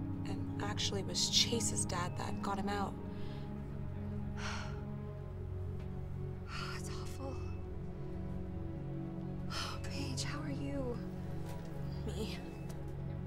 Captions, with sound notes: - And actually it was Chase's dad that got him out. - (sighs) Oh that's awful. Oh Paige, how are you? - Me?